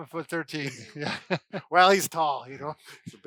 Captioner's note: laughing